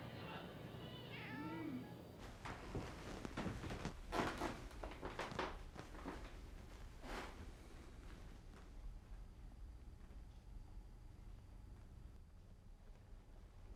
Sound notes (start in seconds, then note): 0.8 cat meowing; 4.4 floor creaking